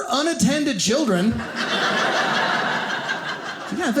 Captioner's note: audience laughing